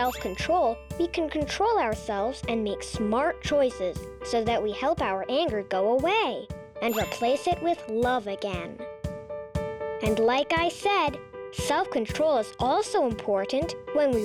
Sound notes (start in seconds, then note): 0.0 upbeat music; 0.0 check mark rings; 6.9 check mark rings